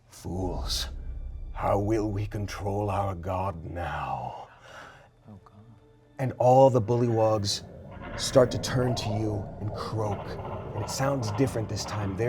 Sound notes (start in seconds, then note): 4.7 gasps; 7.9 creatures calling